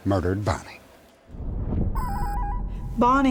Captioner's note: whoosh